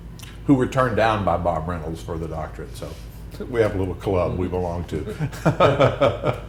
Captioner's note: laughter